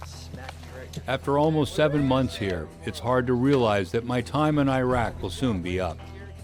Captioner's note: voiceover